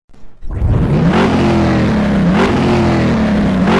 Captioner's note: engine revving